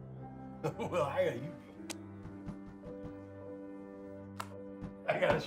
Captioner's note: laughing